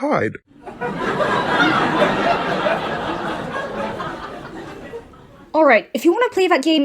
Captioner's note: audience laughs